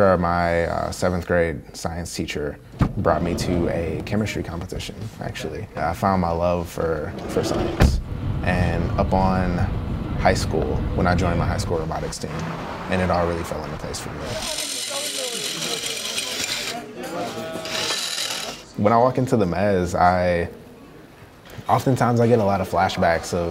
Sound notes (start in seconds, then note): 14.3 drilling